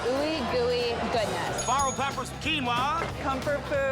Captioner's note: bell dings